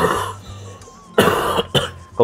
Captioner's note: coughing